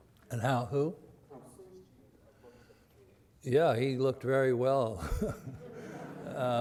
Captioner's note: laughs